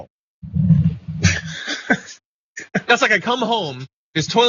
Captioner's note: laugh